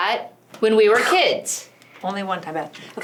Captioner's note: whacking verbal sound effect